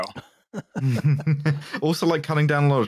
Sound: laughter

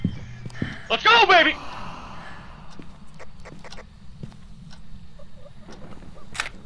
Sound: heartbeats; ghost exhales as it kills Desh; choking sounds, camera clicks

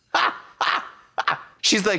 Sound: Trixie caws

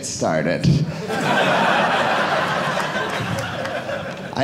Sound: audience laughing

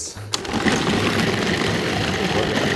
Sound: mixer whirring

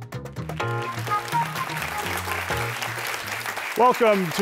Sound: applause

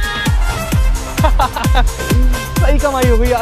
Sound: laughing

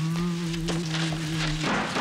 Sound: humming

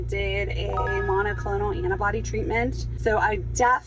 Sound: chime ringing

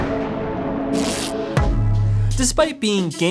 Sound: chill music; thunder rumbles; electricity crackles

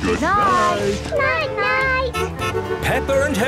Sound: honking

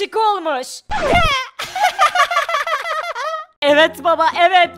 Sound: laughter

